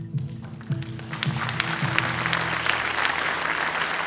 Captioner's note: upbeat music; audience applause